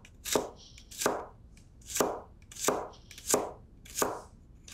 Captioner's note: knife chopping